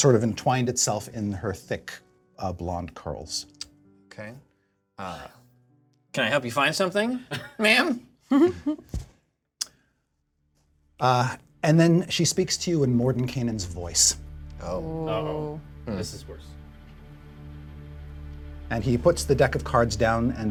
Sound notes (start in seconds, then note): 8.3 laughter